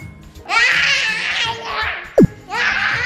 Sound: yelling

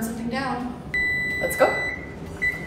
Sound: oven beeping

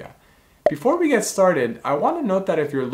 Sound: bubble popping

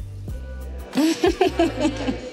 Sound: laughing

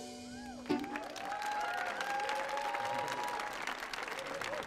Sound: audience applauding

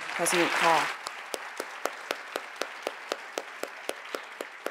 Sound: audience applauds

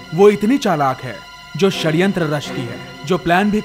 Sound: none

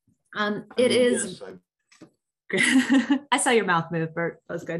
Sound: chuckles

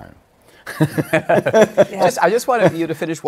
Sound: laughter

